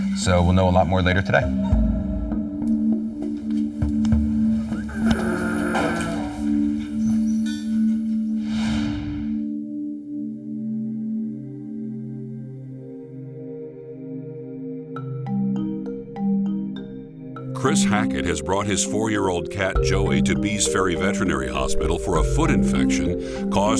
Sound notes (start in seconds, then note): 1.4 percussive music; 4.5 Butters breathing heavily; 6.7 percussive music; 15.1 dramatic music